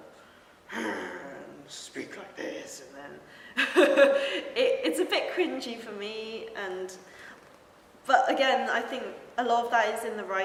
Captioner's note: laughs